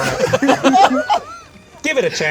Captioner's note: group laughs